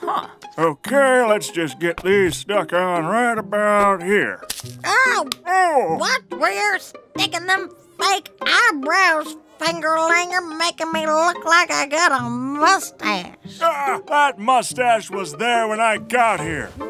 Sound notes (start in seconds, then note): 4.4 soundbite of adhesive; 4.4 soundbite of slap